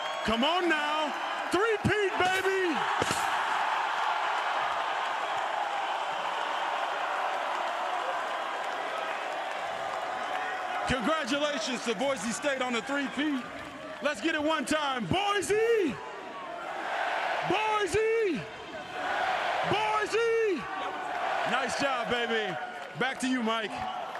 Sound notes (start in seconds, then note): 8.0 cheers